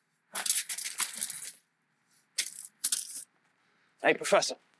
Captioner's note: bag crumples